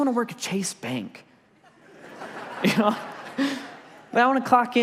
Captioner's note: congregation laughs